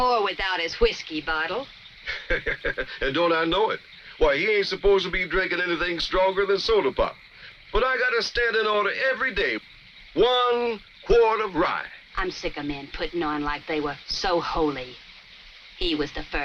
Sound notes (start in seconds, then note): 2.0 chuckles